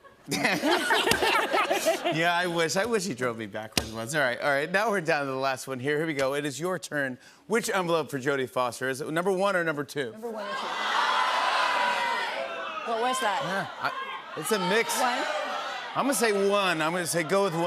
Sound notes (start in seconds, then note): 0.0 laughter; 10.3 audience shouting